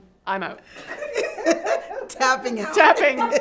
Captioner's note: laughing